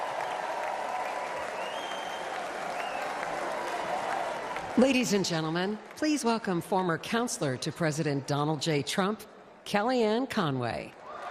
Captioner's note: applause